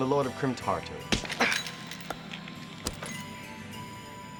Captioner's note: smacks